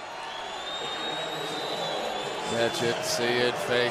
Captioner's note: pa announcement